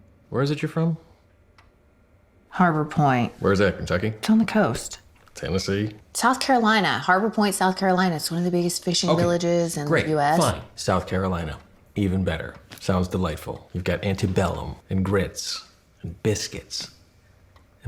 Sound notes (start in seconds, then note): none